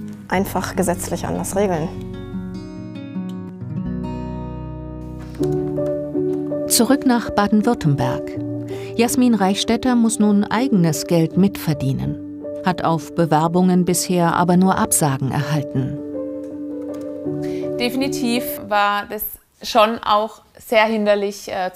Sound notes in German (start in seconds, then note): 2.8 Sanfte Musik; 5.0 Neugierige Klänge